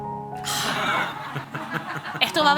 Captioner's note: laughter